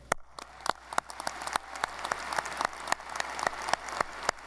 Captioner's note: audience applauding